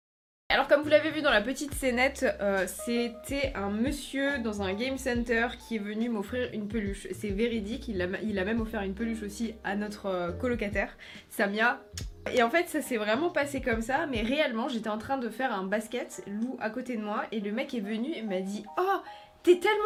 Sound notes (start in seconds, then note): 11.9 kiss